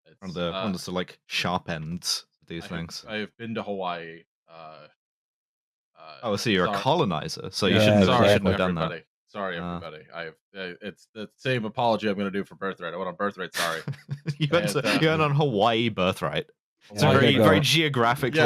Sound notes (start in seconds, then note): 13.4 chuckles